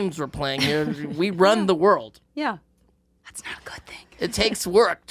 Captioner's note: whispers